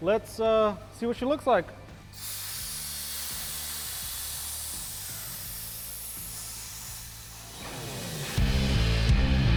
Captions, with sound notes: let's see what she looks like. (gas valves hiss)